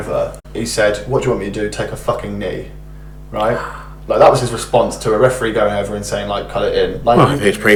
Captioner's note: gasps